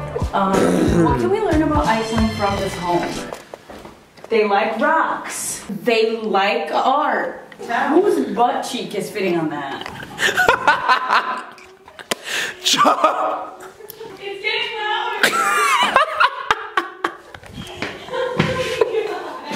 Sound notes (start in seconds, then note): 10.1 laughs; 15.2 laughs